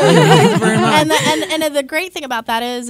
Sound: laughs

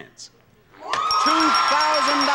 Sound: applause; bell dings repetitively

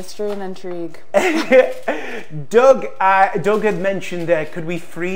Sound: chuckles

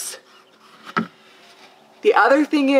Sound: vinyl wood thuds

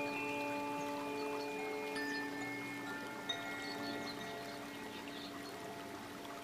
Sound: bells lightly chiming; water babbling

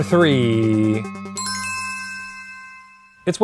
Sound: bell ringing

